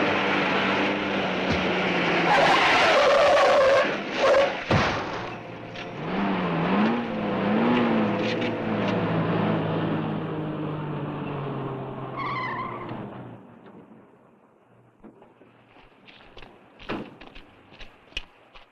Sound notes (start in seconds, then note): 2.4 tires screeching; 12.3 tires screeching